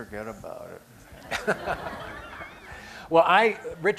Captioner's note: laughter